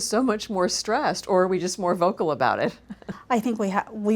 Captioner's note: laughs